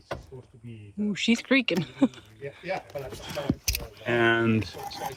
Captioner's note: laughs